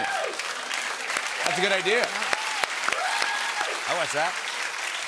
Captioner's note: cheers and applause